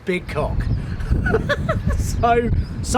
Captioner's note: laughs